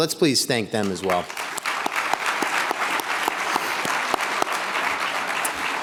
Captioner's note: everyone applauding